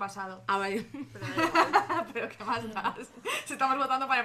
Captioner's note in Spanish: risas